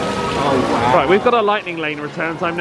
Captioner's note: water gushing